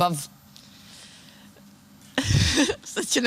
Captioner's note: awkward silence